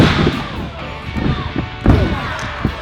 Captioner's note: thud; crowd shouting; thudding sound; crowd cheering